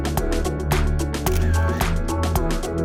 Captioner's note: camera shutter clicks; electronic music